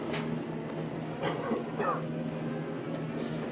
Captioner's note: coughs